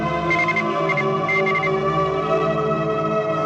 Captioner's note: heart monitor beeping